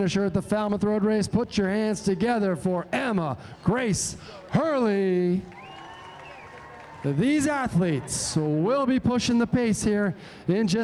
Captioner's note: cheering